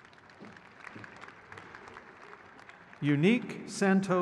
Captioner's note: crowd claps